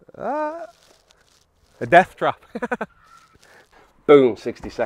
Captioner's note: laughs